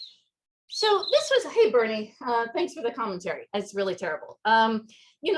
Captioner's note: Bernie chirping